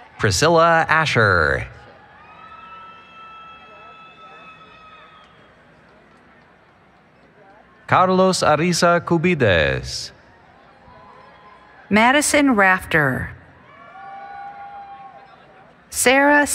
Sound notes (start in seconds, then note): 4.5 cheering